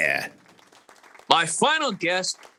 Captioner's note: audience clapping